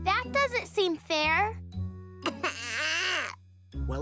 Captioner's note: crying